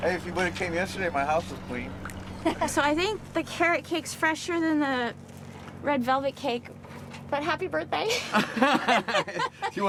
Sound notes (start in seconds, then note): 2.6 laughing; 8.1 both laughing